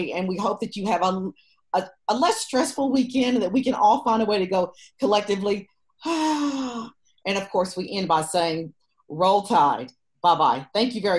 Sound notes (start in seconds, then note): 6.1 sighs